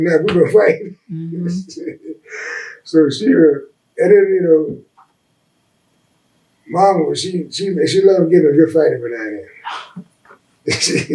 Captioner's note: laughs